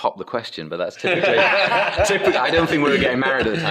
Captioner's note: laughs